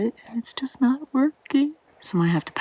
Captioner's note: high-pitched whining